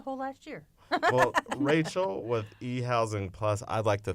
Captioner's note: laughter